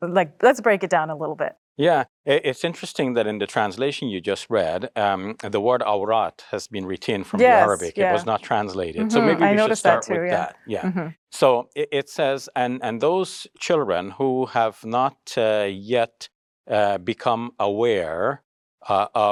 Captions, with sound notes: Like, let's break it down a little bit. - Yeah, it's interesting that in the translation you just read, the word (speaks Arabic) has been retained from the Arabic, - Yes, yeah. - it was not translated. - Mm-hm, I noticed that too. - so maybe we should start with that, yeah. So it says, "And those children who have not yet become aware of women's private parts,"